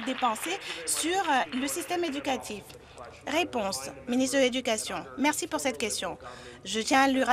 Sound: some Applause

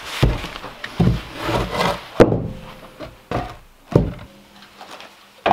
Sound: wood thumping against floor

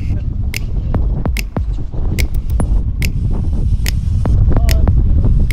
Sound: rhythmic clicking

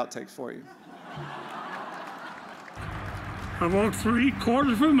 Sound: audience laughs

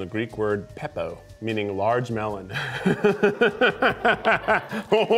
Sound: laughs

